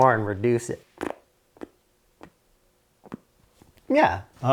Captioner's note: blows raspberry